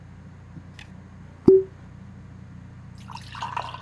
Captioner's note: cork pop; liquid pouring